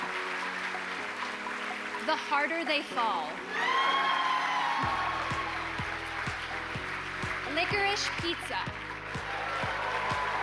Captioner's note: applause